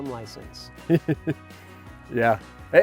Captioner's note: laughing